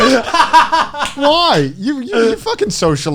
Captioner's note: laughing loudly